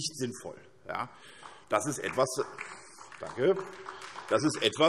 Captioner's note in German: Beifall SPD